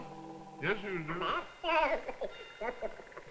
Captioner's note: tape fast forwarding